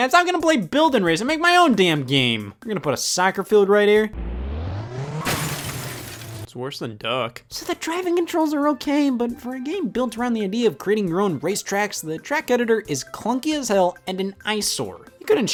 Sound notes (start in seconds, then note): 4.1 car engine revving; 5.3 glass clattering